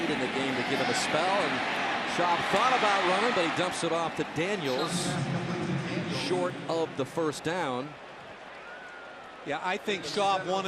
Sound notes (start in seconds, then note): 5.4 pa announcement